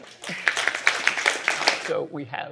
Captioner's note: applause